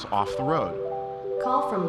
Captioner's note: phone ringing